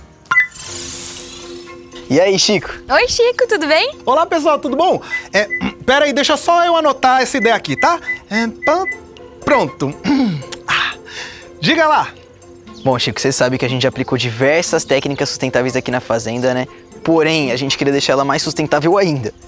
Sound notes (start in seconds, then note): 0.2 click; 10.0 clearing throat